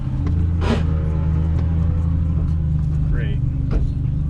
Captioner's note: car gears grinding